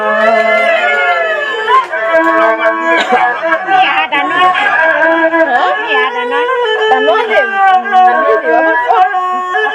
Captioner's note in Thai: ปรบมือ